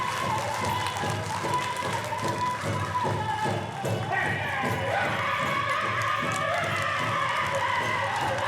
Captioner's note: loud applause